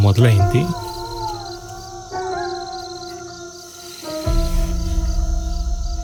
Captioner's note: screams in distance